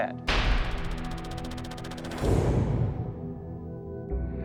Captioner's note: rapid clacking